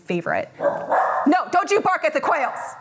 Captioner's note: dog barking